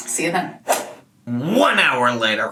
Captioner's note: whip cracks; mimics whip